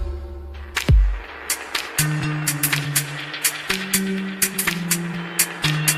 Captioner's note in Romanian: Aplauze